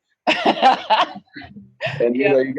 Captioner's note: laughing